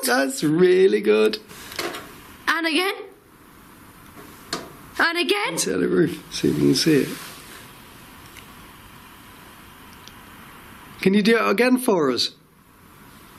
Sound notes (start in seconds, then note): 2.4 tapping; 4.4 tapping